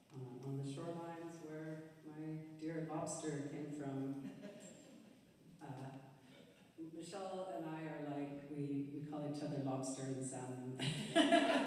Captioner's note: laughter